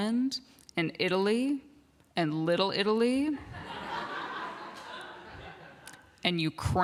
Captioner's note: laughter